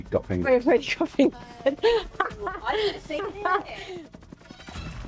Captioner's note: laughs